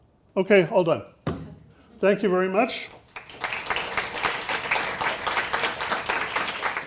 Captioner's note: audience applauding